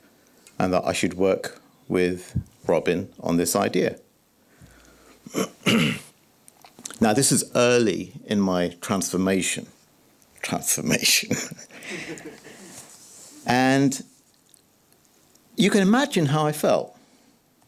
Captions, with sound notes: and that I should work with Robin on this idea. [clears throat] Now, this is early in my transformation. Transformation. [chuckles] And you can imagine how I felt.